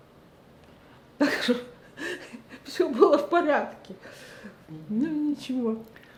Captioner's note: laughing